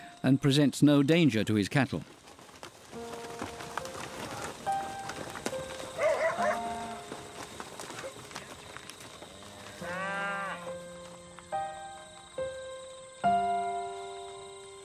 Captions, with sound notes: and presents no danger to his cattle. [piano music] [dog barks] [cows mooing]